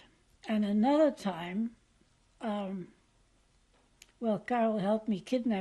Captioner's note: pauses for 3 seconds